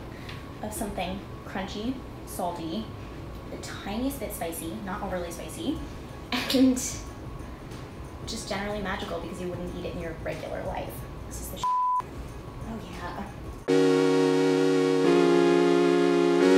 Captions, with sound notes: of something crunchy, salty, the tiniest bit spicy, not overly spicy, and just generally magical because you wouldn't eat it in your regular life. This is the (beep). Oh yeah! (upbeat music)